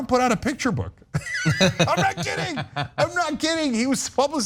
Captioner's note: laugh